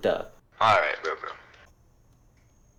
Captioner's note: phone voice